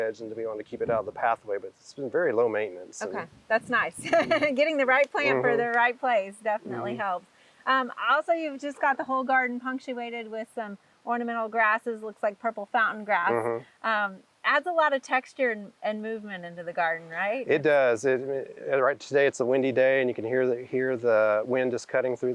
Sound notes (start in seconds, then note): 5.2 laughing